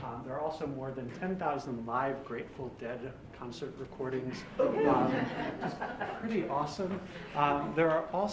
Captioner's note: laughter